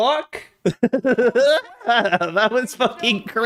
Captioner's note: goofy ass laugh